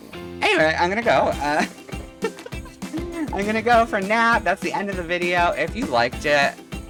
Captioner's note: laughs at stupidity